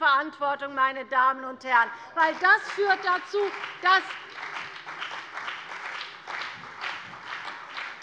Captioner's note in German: Beifall bei der CDU und dem BÜNDNIS 90/DIE GRÜNEN